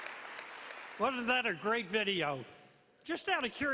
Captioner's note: applause